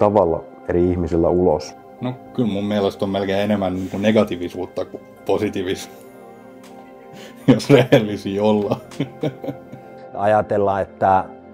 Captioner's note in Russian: смеется